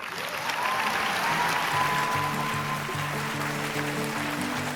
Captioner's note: audience applauding